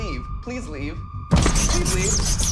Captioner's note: scratching on glass noises